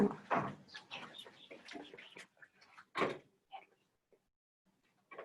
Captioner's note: background chatter